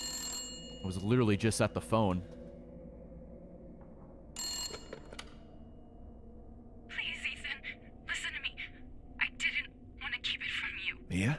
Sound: phone rings

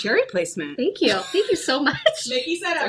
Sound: chuckles

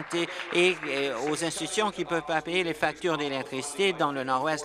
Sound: applause

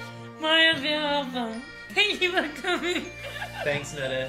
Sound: laughing

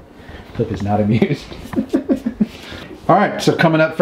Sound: laughs

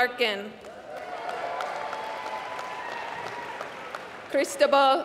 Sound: applause

